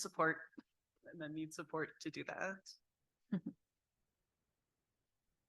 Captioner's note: chuckles